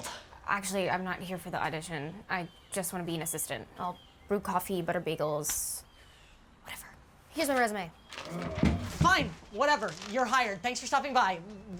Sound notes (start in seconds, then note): 8.4 zombie walter groaning